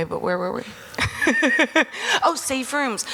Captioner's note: Selma Blair laughing